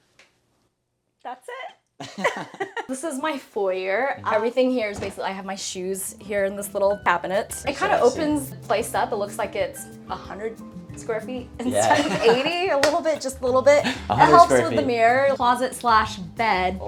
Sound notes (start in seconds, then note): 2.0 both laughing; 11.7 laughing